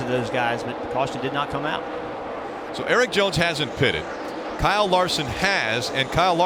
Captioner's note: crowd cheers